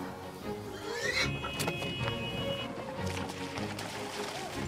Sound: pigs squealing; lighthearted string music

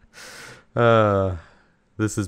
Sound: sigh

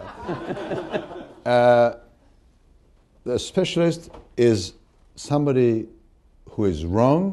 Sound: laughter

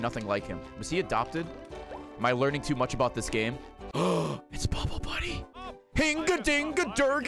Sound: gasps

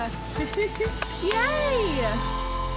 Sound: laughing

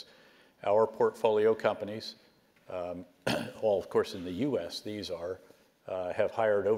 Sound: cough

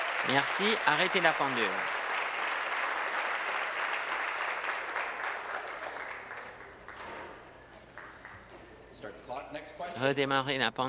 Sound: applause

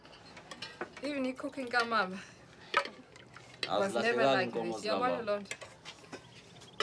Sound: Elsie and Solomon speaking Swahili

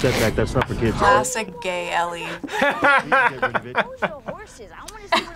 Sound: laughs

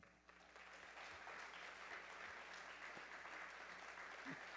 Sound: audience applauding

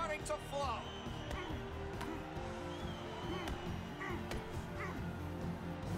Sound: groaning

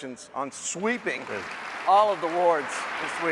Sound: applause

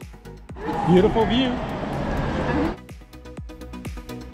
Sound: siren wails; upbeat electronic music

